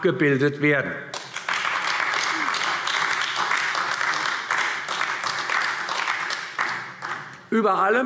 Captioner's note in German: Beifall AfD